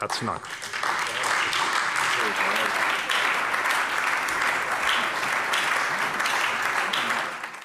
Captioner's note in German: Anhaltender Beifall bei der SPD